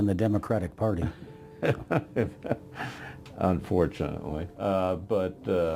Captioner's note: laughing